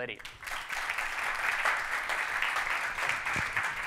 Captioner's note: audience clapping